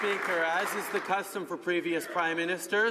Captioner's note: some Applause